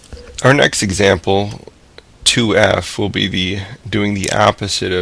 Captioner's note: voiceover